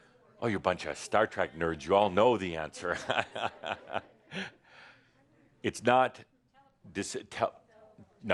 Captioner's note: Adamus laughs